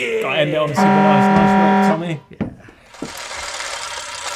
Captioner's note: buzzer